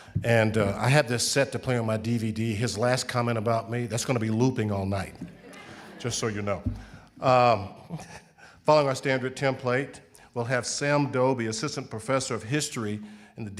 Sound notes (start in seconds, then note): 5.2 audience laughing; 7.8 chuckles